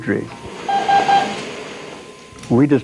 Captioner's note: beeping